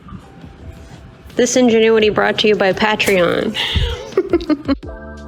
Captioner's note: laughing